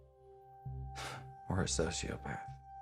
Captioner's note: scoffs